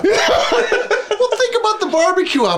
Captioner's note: laughing